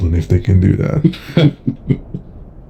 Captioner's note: Foxy and Fazbear chuckle